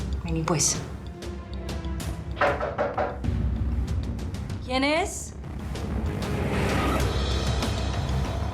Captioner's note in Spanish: tocan a la puerta